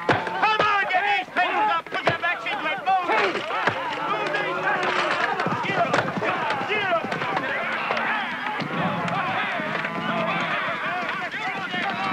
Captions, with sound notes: Put your backs into it! [Cattle sounds].